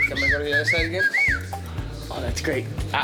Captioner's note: laughter, indistinct conversations; man whistling